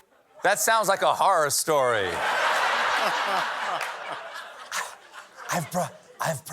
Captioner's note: whispering